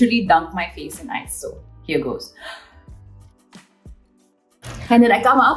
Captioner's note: Alia inhales